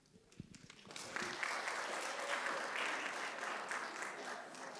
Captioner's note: audience applauds